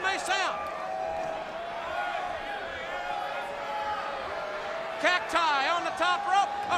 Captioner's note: crowd chatter